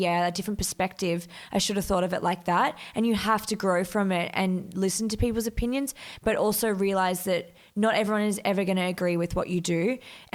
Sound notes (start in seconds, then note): none